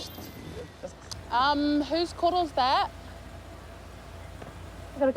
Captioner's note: car horn beeps; engine idles